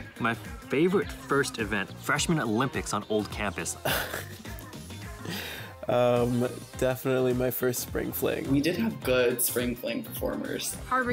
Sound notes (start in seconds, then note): 3.8 laughs